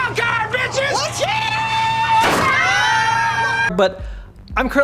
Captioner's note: screams in joy